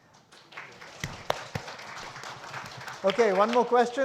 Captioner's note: audience applauds